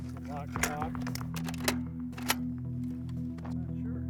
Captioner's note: clicking sound